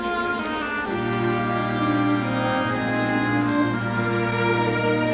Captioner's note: Aplausos